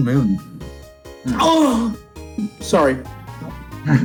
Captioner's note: moans